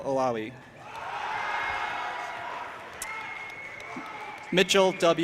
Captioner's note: audience applauding and cheering